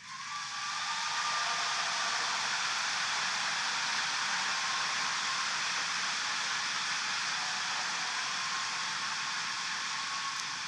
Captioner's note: applause